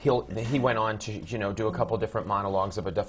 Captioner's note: laughs